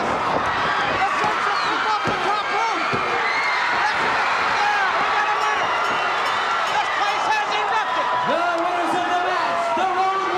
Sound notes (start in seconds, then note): 3.3 audience cheers; 5.2 bell rings